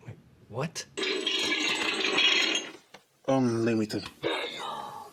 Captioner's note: metal clanging